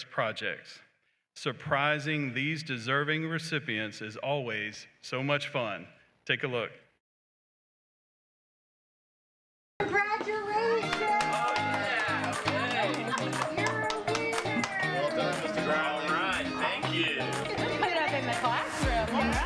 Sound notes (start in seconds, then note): 9.7 woman off-screen; 12.9 applause and cheering; 13.5 woman off-screen